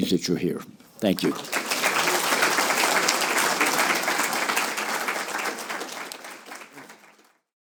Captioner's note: applause